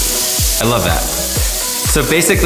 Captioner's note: water running